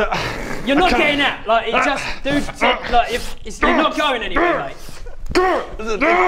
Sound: annoyed grunting

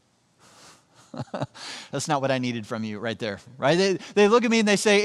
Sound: chuckles

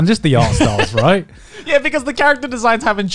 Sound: laughing

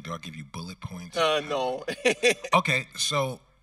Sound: laughs

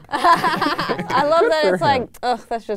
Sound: laughing

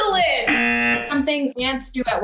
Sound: buzzer

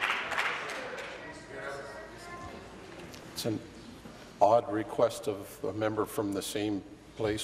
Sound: applause

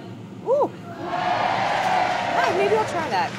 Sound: audience cheering

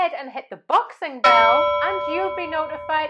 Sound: boxing bell rings

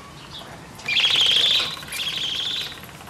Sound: tribble sound

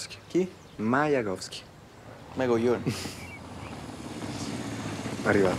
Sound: engine sound

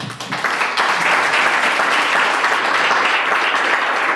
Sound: clapping

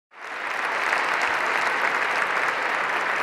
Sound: applause

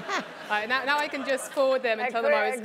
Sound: laugh

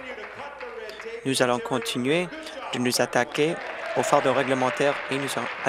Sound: applause

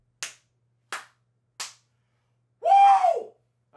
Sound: claps

